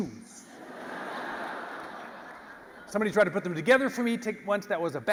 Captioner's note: laugh